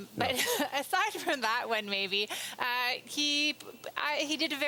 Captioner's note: laughter